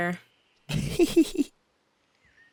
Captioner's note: mischievous giggle